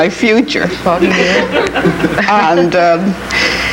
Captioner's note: audience laughing